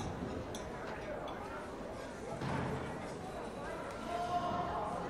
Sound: people murmuring

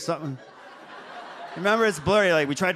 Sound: audience laughs

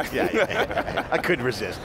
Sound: laughing

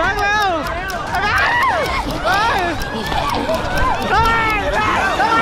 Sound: screams

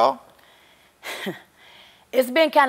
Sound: chuckling

